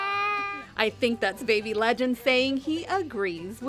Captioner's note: baby babbling